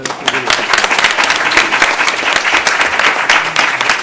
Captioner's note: applause